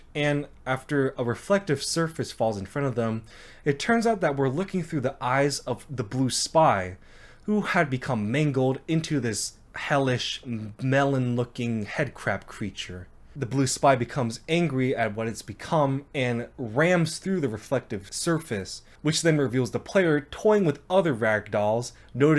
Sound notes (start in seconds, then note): none